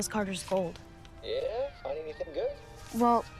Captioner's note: on phone